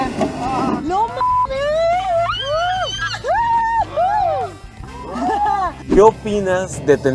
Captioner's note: engine revving; shouts in excitement